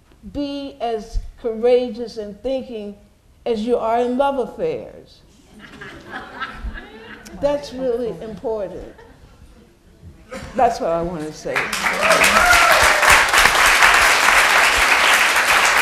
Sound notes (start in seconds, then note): 5.4 laughter; 11.5 applause